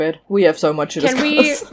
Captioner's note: chuckles